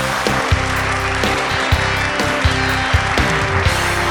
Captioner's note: audience applauds